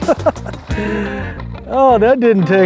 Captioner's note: man laughing